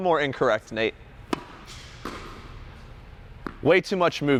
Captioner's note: rackets hit ball